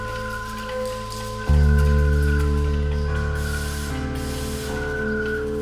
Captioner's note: welding sounds